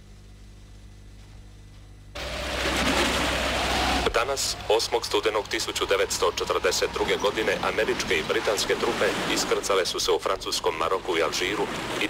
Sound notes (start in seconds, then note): 4.2 radio